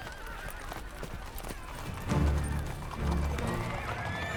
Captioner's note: horses whinnying